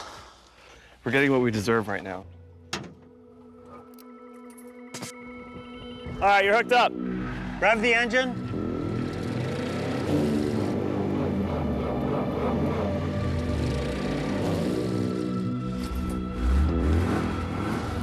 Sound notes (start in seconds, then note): 8.9 engine revving; 11.2 chugging lamely; 16.6 revving